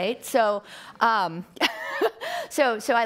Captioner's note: laughing